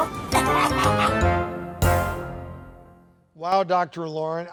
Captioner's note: coughing; quirky music